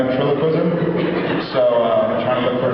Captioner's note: laughs